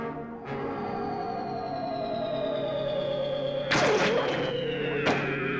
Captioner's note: strange modulating